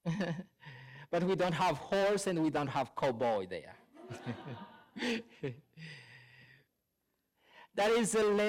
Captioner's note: laughter